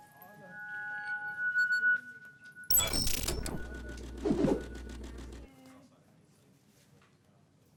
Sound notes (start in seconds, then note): 0.2 high pitched digital noise echoes; 4.3 digital noise swooshes